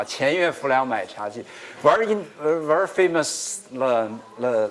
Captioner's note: speaking another language